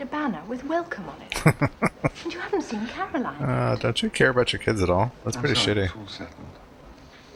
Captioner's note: chuckling